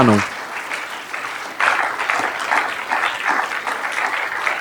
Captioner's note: audience clapping